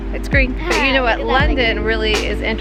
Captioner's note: giggling